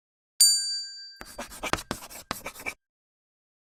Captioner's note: bell dings